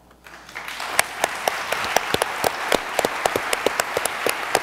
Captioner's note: audience applauds